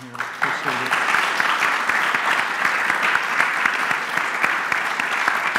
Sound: applause

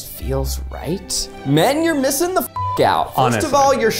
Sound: beep

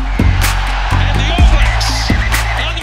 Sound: crowd cheering

